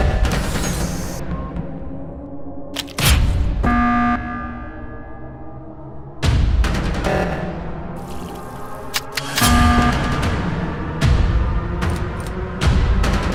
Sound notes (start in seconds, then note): 3.6 alarm sounds